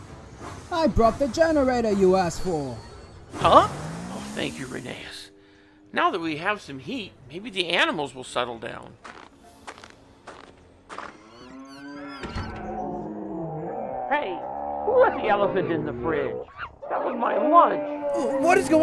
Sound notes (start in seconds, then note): 9.4 door creaks open to animal noises